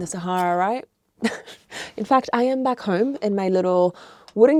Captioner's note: chuckles